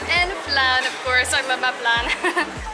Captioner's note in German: lacht